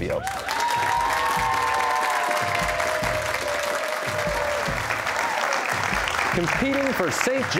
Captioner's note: cheers and applause